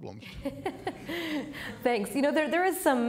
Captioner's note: laughs